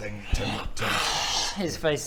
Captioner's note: hrrcchhhh